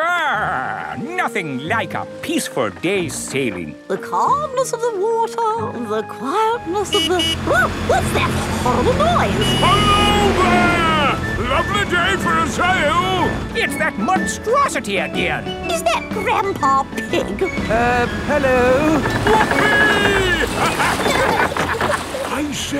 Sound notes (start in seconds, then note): 6.6 honking